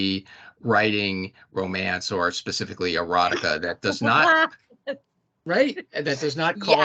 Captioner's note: laughing